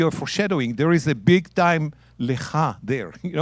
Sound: speaking in Hebrew

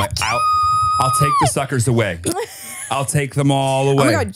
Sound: laughs

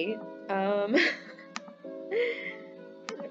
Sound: laughs

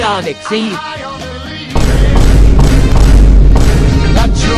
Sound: Vine boom to the beat

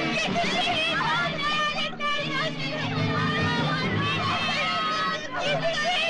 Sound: girls screaming

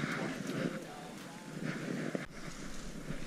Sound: noises in the staircase

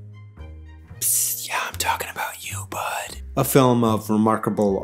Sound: whispers

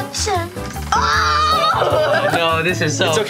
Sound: cheering

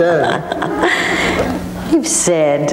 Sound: laughing

